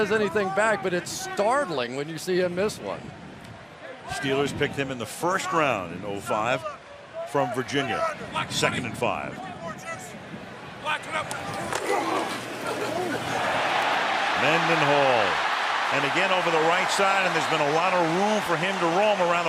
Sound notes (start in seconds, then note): 14.1 cheering